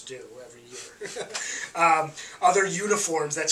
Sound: laughs

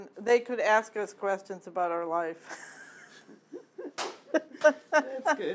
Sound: laughing

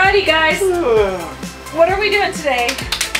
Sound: yawns

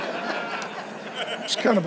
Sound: congregation laughs

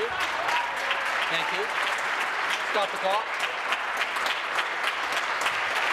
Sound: applause

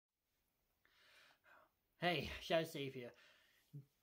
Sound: takes a breath

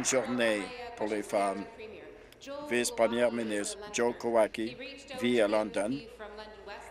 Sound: applause

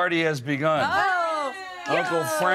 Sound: group cheers

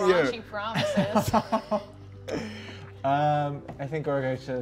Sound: laughing

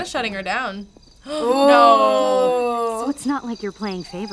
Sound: gasps

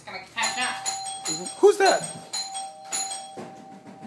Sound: doorbell Rings

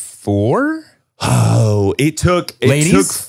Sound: sighs

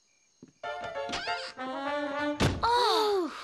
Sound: door opening

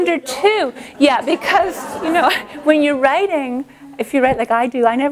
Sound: laughter

